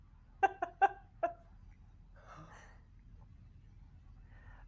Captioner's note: laughing